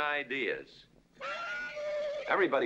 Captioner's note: horse neighing